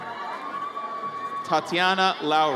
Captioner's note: audience cheers